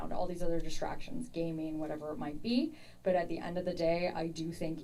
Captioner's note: none